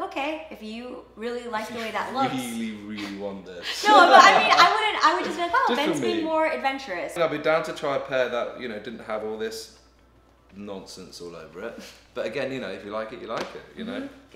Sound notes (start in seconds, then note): 3.7 laughs